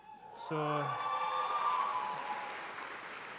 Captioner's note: audience cheering